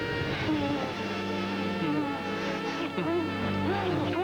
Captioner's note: moaning